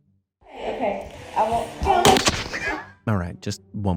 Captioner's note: ball crashes